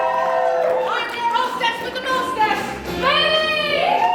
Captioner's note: applause